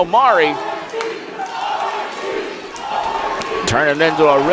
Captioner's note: crowd